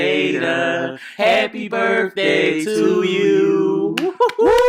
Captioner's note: cheering